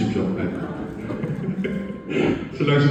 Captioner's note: chuckles